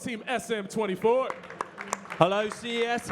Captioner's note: audience clapping